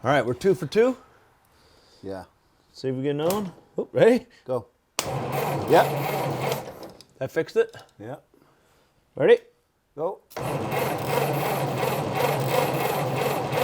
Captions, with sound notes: - All right, we're two for two. - Yeah. - See if we can get another one. Oh, ready? - Go. (engine sputters) - Yep. That fixed it? - Yep. - Ready? - Go. (engine sputters)